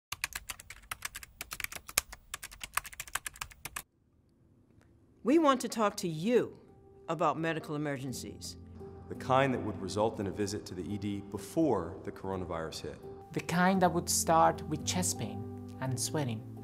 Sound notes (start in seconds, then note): 0.1 typing